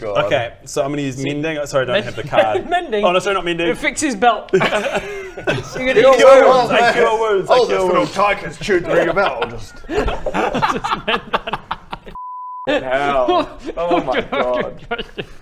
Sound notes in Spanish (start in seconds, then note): 4.5 risas; 8.5 riendo